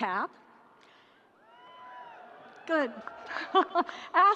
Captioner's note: audience cheering